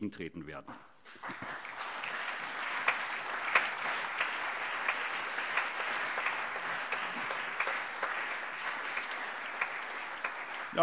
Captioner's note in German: Allgemeiner Beifall